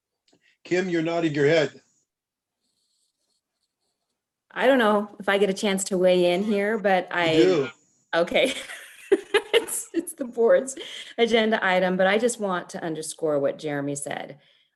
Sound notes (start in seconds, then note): 8.4 laughter